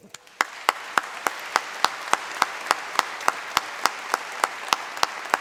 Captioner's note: applause